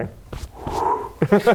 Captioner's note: swoosh swoosh